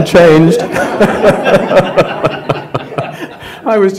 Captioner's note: laughter